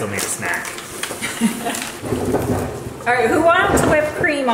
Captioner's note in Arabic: أمي تضحك